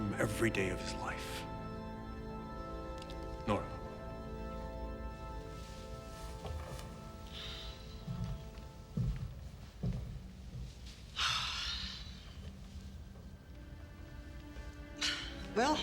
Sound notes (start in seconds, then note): 11.2 Nora sighs; 13.1 somber music